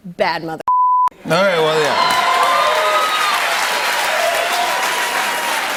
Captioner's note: cheers and applause